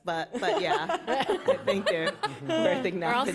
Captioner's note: laughter